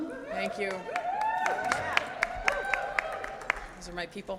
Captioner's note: audience cheers